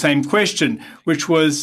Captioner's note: speaking French